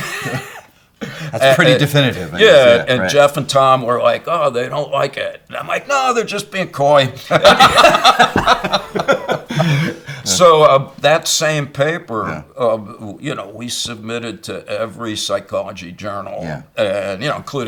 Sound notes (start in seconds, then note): 0.0 laughing; 7.2 both laughing